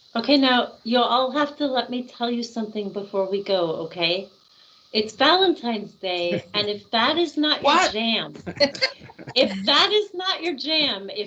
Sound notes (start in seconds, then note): 6.2 laughing; 8.3 laughing